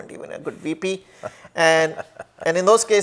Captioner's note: laughs